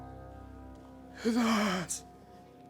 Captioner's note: groans